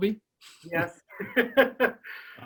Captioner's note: laughs